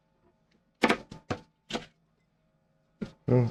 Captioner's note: knife cutting